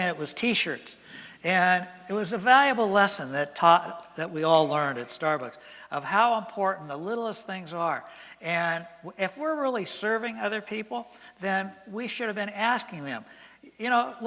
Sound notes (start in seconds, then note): none